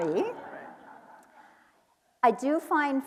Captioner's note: audience laughing